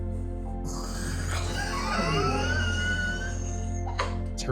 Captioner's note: dry gargle; amused laughter